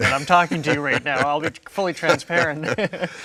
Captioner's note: both laughing